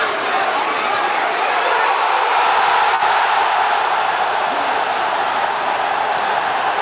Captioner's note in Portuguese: sons da torcida; gritos de gol; torcida celebrando